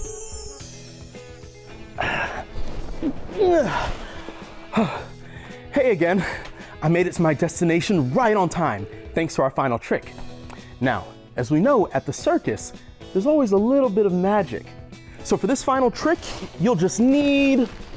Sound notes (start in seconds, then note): 0.0 magic twinkles; 3.3 grunts